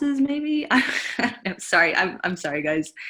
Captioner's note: giggles